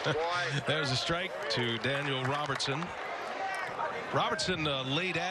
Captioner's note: laughing